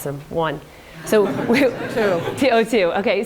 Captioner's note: audience laughs